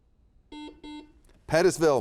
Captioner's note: buzzer beeps